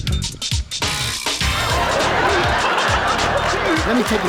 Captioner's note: audience gasping and laughing